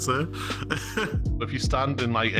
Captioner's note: man laughs